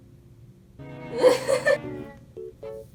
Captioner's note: lols